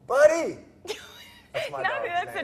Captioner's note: laughing